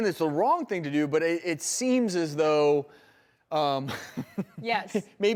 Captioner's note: laughs